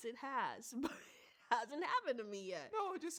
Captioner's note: chuckles